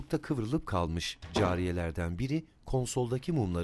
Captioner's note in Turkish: Kapı kapanma sesi